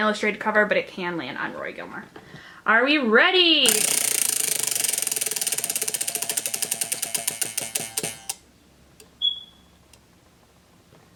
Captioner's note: wheel Spinning noise